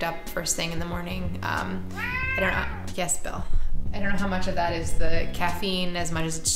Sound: cat miaows

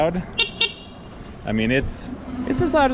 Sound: horn honking

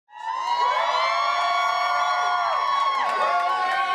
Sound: students cheering

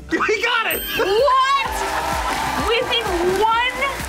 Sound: crowd cheers

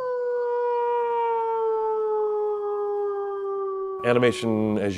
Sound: wolf howl

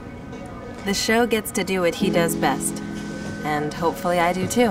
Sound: voiceover

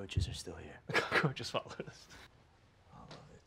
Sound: laughs

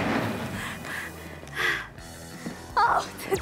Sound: gasp gasp

